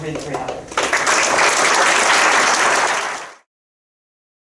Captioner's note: crowd applauding